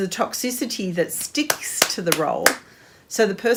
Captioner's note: hands clap